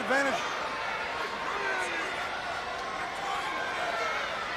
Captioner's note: crowd chattering